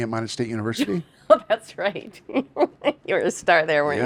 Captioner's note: chuckles